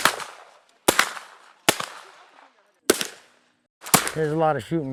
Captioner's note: gun shots